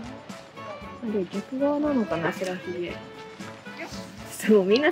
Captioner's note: waterfall